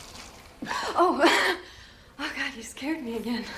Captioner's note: gasps